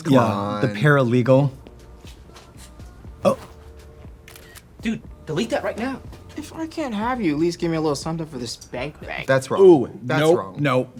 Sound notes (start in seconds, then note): 4.2 camera shutter clicks